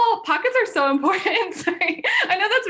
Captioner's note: laughs